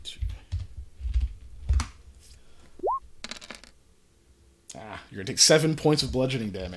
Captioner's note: muttering numbers for the roll